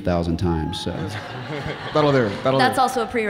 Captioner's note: audience laughing